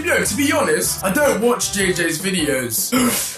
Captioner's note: gasps